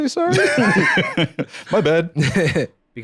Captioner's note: both laugh